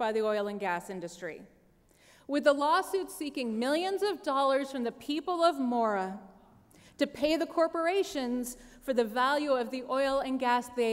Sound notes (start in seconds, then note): none